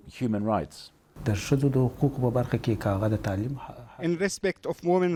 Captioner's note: through translator